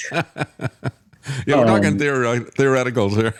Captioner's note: laughing